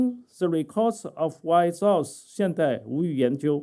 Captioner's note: speaking chinese